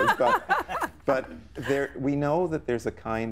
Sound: laughing

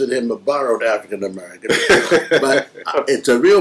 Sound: laughter

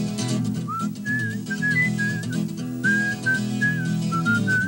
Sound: whistling

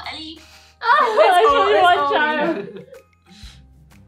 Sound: laughs & Imitates

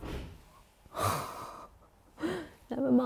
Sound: wall banging; gasps

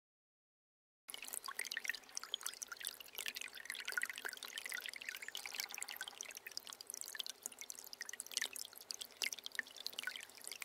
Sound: sound of water stream

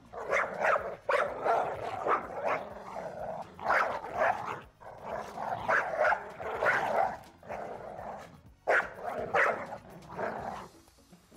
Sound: dogs gnarling

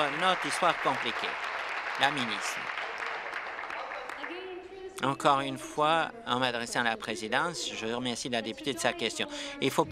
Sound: applause

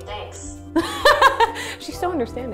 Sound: laughing

